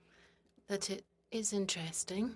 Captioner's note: speaking in French